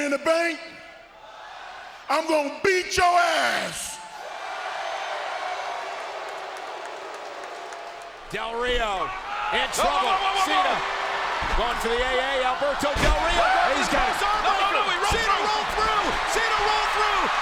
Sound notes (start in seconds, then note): 4.6 applause